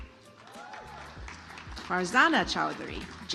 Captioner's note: audience applauds